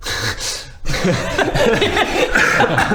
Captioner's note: mocking laugh